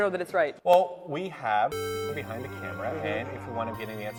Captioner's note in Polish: beep